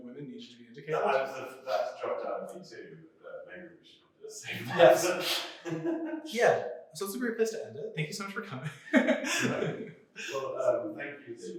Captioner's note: laughter